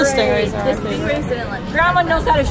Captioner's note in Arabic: يتمتم